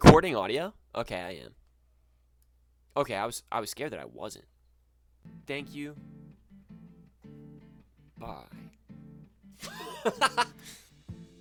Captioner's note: pfft, haha!